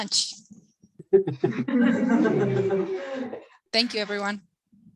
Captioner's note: laughter